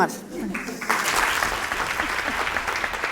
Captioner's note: applause